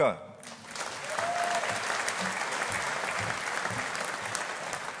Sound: audience applauding

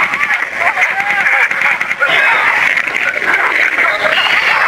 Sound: worried Heavy Breathing; even more glitched out screaming

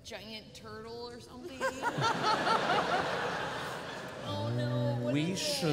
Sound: laughter

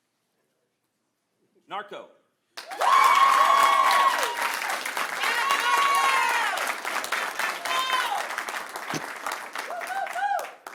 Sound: applause; cheering

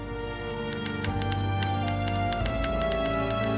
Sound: typewriter keys clacking

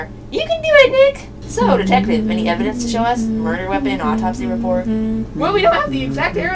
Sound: hums cross-examination music in the background

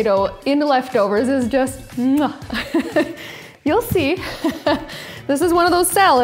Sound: laughs

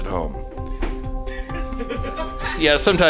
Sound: laughing

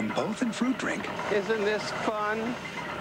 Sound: Rickles, sarcastically

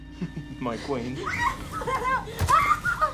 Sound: chuckles; screaming; screams

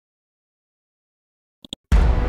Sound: mouse clicks; dramatic chord

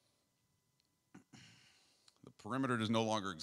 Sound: clears throat

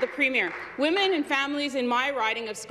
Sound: some Applause

